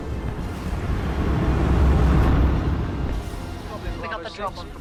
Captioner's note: wind roars